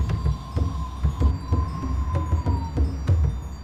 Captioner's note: wind howling